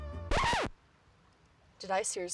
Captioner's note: record scratches